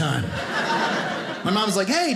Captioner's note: audience laughing